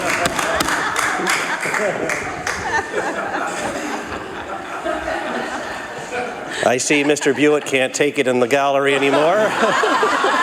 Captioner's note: laughter